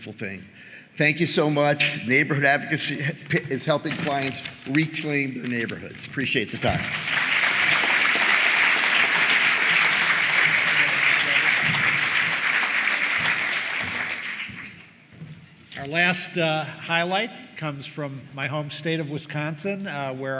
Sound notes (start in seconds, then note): 12.6 applause